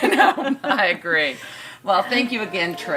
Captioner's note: laughter